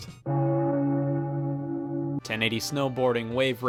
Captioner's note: bell toll